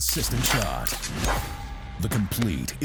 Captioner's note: air rifle whooshing